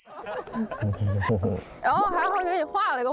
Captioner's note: mhm-hm